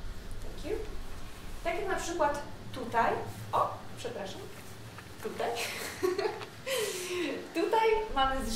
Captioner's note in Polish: śmiech